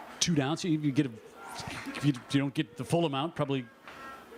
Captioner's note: laughter